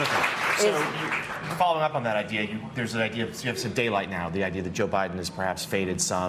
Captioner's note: applause